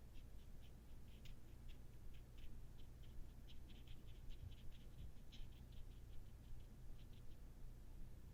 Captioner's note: light taping brush strokes